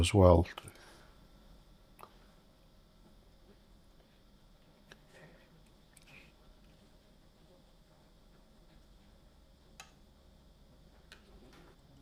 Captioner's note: silence